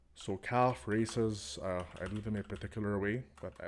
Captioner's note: sexy typing noises